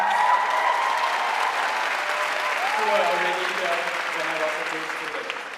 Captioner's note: audience cheering and applauding